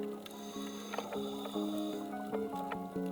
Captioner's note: breathing heavily